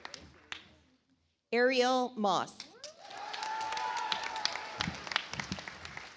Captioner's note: audience applauds